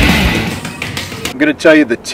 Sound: loud hardcore music; gloves on pads

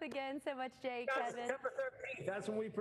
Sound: laughter

